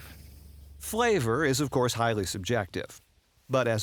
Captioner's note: voiceover